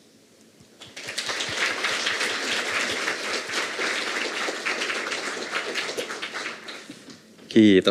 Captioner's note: Aplodeja